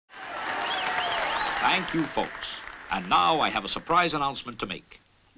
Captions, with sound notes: (audience cheering) (audience whistle) - Thank you folks. And now I have a surprise announcement to make,